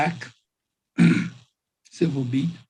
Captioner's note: clears throat